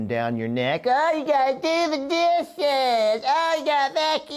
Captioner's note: in higher pitched voice